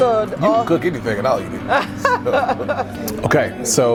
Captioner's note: laughing